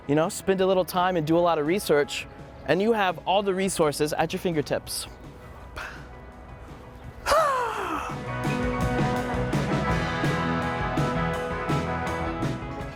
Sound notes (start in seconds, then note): 4.9 making sound effect noises; 8.1 rock music continues